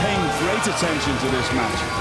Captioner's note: crowd cheering